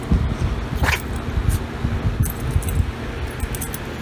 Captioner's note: Ella sneezes